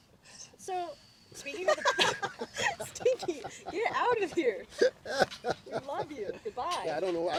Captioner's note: laughter